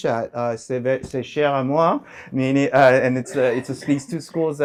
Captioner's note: french